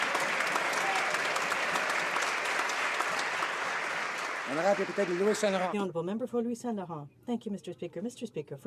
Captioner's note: some Applause